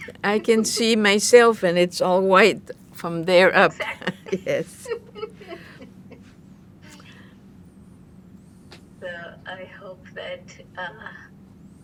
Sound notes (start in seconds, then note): 3.5 laughing; 6.2 pauses 6 seconds